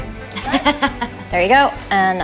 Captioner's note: laughs